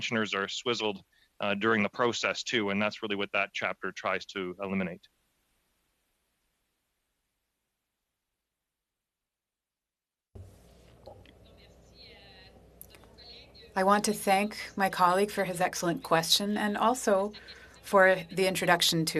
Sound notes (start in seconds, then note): 16.6 speaking in French